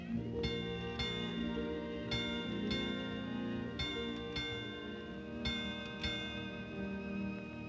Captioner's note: bell rings